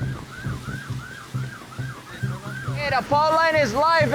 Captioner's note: siren wailing